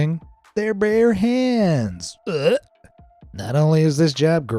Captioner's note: retches